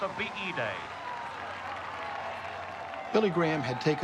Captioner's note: cheers and applause